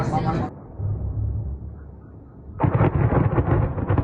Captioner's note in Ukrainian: канонада